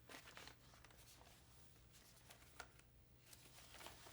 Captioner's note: paper rustles